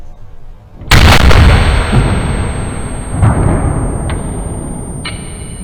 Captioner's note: gunshot